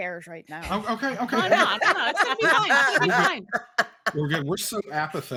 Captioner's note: all laughing